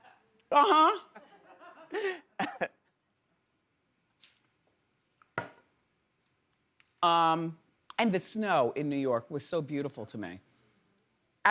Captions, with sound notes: Uh huh. (laughs) And the snow in New York was so beautiful to me.